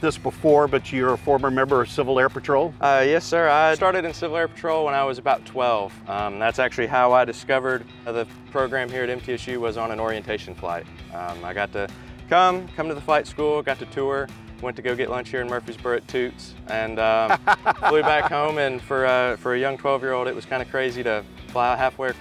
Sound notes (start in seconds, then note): 17.3 laugh